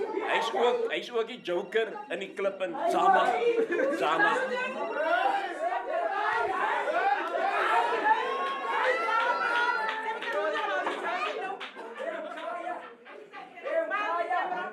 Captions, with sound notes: He's also the joker of the club. Zama! [CHEERING] [APPLAUSE]